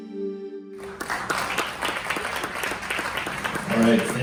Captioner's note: audience clapping